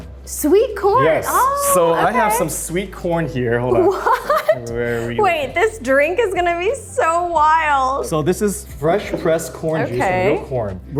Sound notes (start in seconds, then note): 3.8 Arden laughs